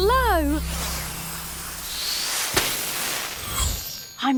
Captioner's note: magical whoosh